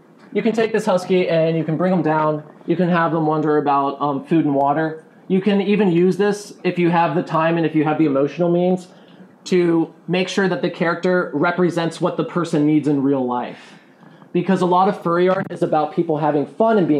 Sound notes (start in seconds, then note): none